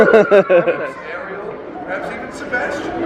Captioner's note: laughing